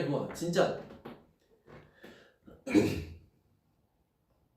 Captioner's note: clears throat